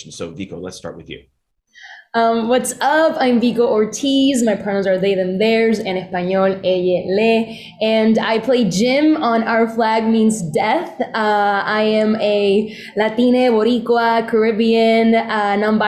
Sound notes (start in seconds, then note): 6.6 speaking spanish